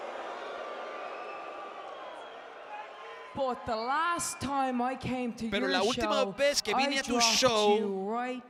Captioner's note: applause